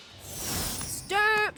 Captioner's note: transition whooshes